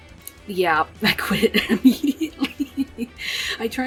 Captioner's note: laughs